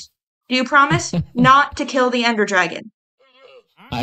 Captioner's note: laughs